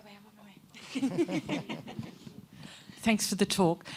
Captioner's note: laughter